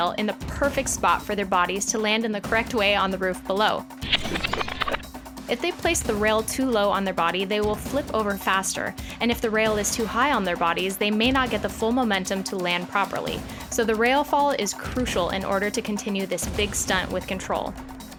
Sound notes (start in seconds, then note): 4.0 record spinning